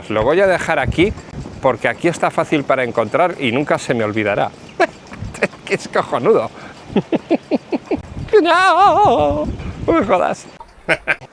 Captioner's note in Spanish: risas